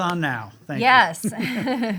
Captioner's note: laughs